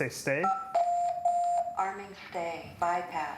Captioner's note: beeps